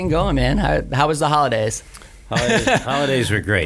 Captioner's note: laughs